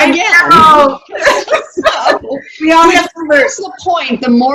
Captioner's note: laughs